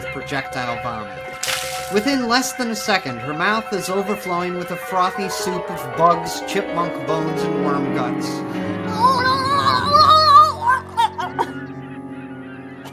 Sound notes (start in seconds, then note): 10.7 Emma gagging